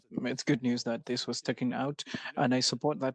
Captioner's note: speaking French